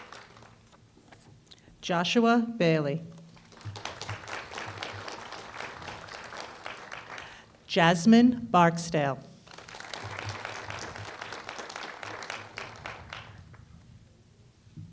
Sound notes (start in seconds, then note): 0.0 applause; 3.2 applause; 9.4 applause